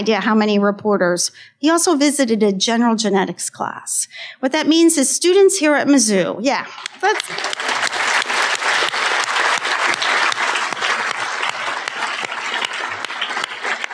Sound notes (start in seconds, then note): 10.6 applause